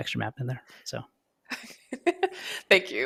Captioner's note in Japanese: 笑い